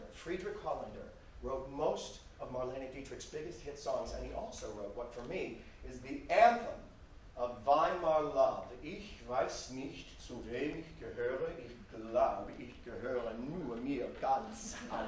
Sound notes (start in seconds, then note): 9.0 speaks German